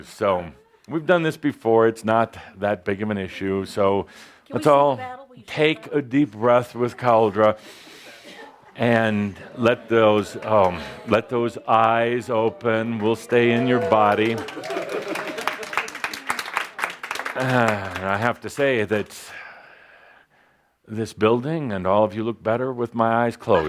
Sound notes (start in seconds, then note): 14.2 audience applause as opens his eyes